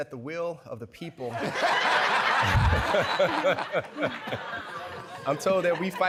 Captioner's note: laughter